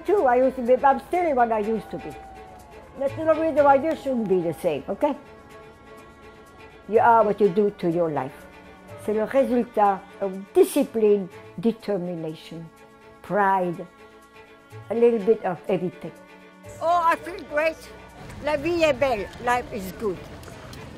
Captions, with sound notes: There's no reason why they shouldn't be the same. Okay? You are what you do to your life. [speaking foreign language] of discipline, determination, pride, a little bit of everything. Oh, I feel great! [speaks foreign language], life is good.